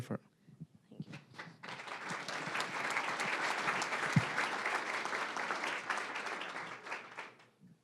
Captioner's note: applause